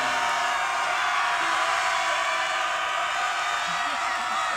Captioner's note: cadets cheering